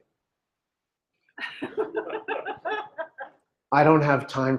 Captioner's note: laughter